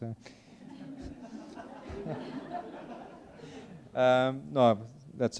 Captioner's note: attendees laughing